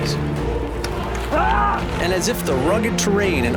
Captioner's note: frustrated yelling